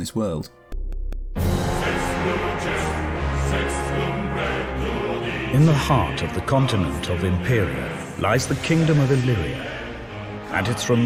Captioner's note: in-game audio